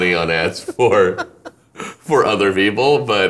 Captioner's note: laughing